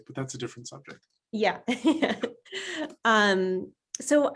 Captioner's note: laughs